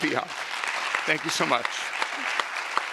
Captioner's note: audience applause